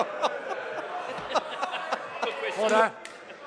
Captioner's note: laughter